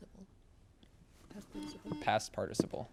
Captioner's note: buzzer beeps